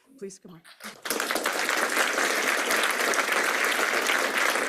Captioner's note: applause